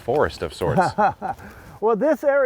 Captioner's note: laughing